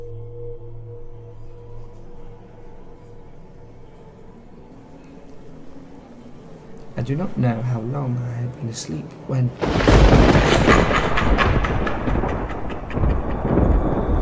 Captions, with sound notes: I do not know how long I had been asleep when... [Thunder clap] [Evil laughter]